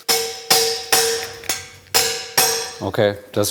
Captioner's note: dull metal clinking